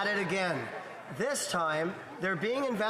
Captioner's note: speaking French